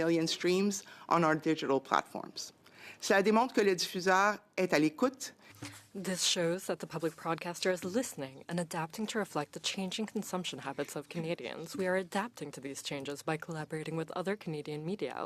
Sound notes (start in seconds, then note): 9.4 speaking French